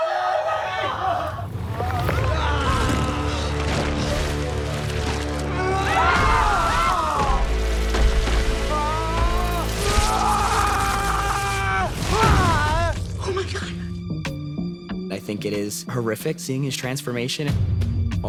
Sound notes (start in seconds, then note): 5.4 family screaming; 8.6 screaming